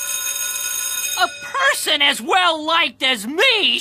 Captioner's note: ringing